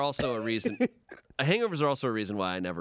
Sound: laughs

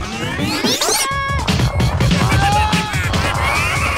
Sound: scream; taunting laughter

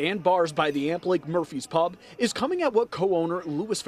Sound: murphy's bar noise

